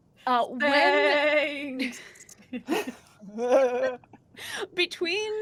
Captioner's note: chuckles